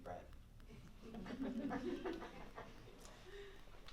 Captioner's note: laughter